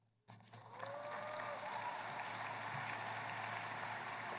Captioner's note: applause